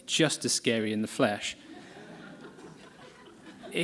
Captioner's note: laughter